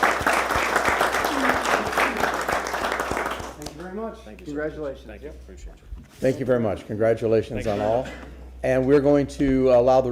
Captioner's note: applause